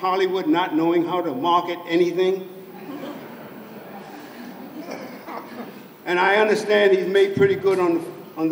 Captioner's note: laughter